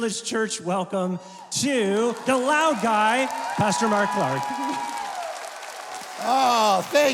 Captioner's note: audience clapping